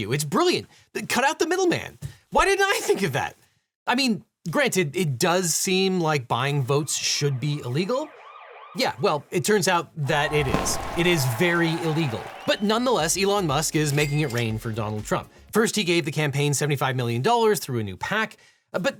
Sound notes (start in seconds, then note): 7.0 police sirens wailing